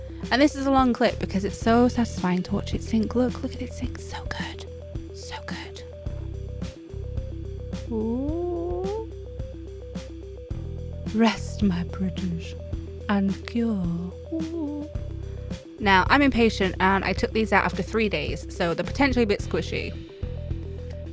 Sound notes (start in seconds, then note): 7.1 whispers